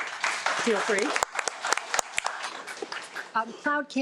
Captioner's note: audience applauding